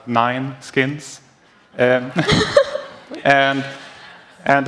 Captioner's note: laughter